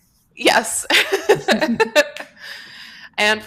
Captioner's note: laughter